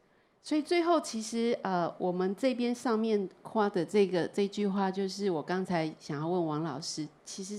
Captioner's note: Mandarin